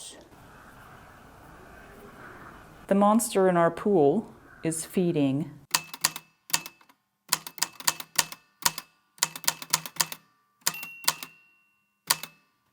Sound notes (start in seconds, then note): 5.6 the typewriter clicks and clacks away, with dings here and there